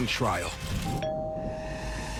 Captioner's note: doorbell rings